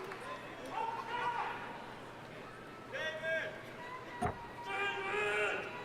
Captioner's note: men shouting in audience